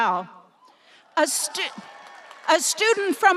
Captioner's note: audience applauding and cheering